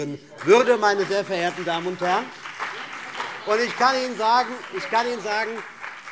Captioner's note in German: Beifall CDU und BÜNDNIS 90/DIE GRÜNEN - Zurufe AfD